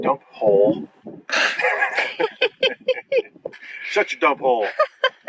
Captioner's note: laughing